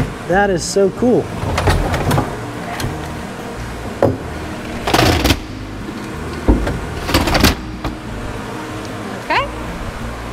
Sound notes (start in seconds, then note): 5.3 hatchet closes